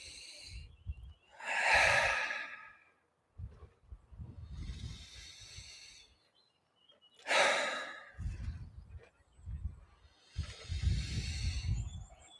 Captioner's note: breathing deeply